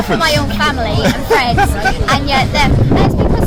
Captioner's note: chuckles